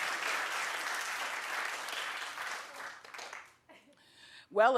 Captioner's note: audience applauding